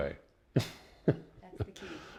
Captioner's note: laughs; voiceover